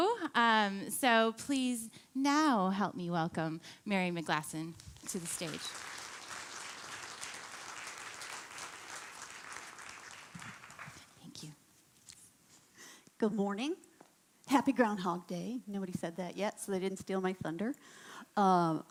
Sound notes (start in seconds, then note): 7.2 applauding